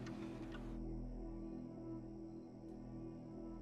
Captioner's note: insects chirping